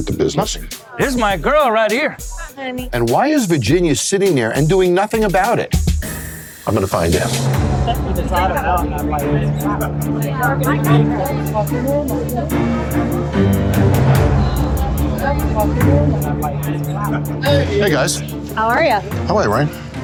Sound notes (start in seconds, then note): 7.5 dramatic music; 9.5 chatter; 12.5 dramatic music